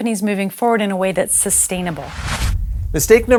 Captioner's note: whooshing sound